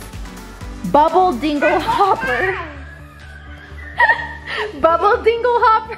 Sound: laughs

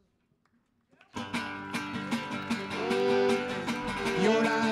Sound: lively folk music; audience applauds

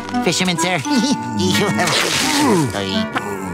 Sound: chuckling; groaning

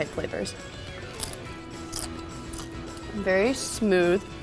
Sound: chip crunching

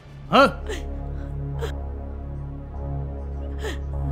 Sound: sobbing

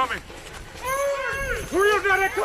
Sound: people yelling

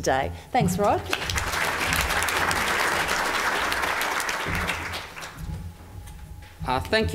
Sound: audience applause

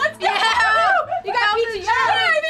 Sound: cheering

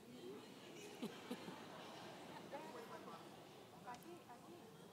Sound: audience laughs

